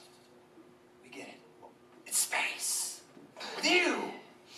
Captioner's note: whispering